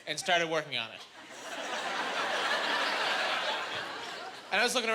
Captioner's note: laughing